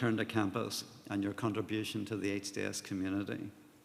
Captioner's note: none